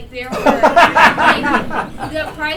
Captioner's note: laughter